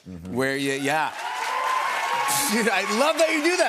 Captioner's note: cheers and applause